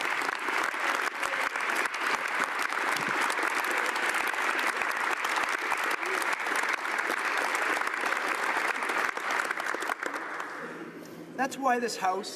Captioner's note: applause